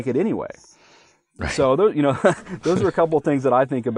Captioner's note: laughing